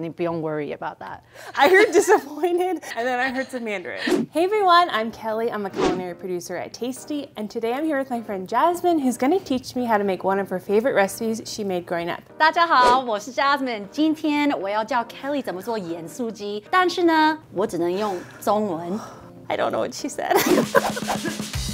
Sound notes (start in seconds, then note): 0.1 speaking in Mandarin; 12.8 speaking Mandarin